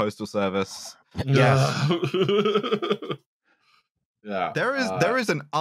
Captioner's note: laughs